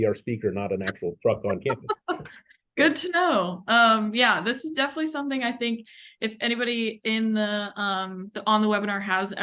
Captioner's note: laughter